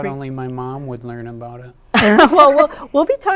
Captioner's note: laughing